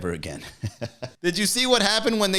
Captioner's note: laughing